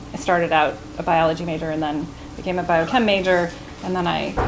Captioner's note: none